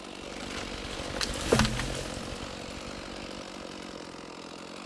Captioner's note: tree trunk thuds